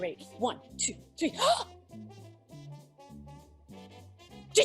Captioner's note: gasp